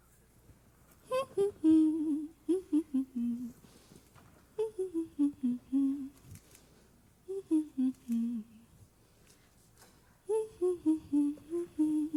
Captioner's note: humming